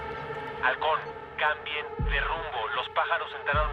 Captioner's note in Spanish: Nacho por la radio